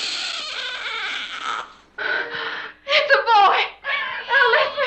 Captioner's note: baby crying